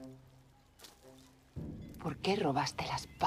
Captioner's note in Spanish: none